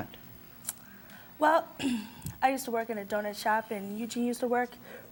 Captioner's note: clears throat